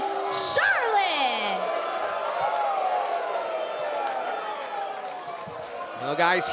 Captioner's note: cheers & boos